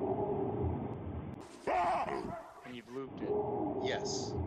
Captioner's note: distant barking; loud barking; distant barking